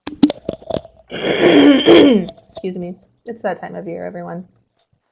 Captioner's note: clears throat